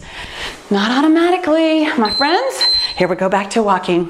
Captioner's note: timer beeps